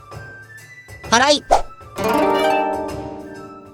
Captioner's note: sweeping